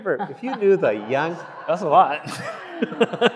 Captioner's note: audience laughing